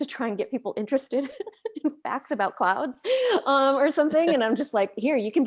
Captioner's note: laughs